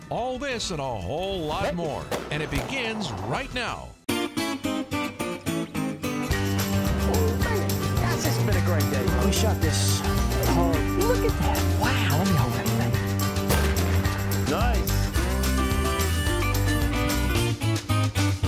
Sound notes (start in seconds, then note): 3.9 country music; 13.5 gunshots firing